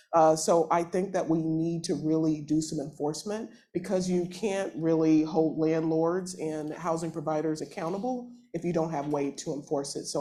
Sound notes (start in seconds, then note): none